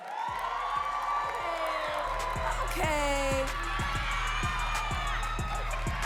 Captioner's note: audience cheering and clapping